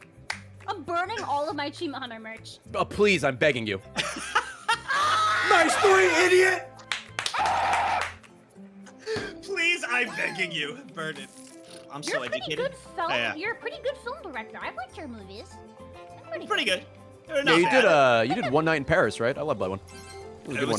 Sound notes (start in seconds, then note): 4.0 laughs; 7.3 screams